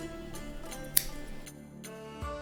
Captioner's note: snip